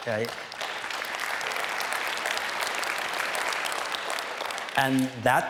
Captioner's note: applause